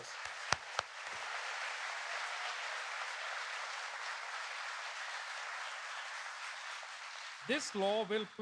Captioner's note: applause